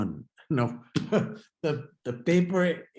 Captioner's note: chuckles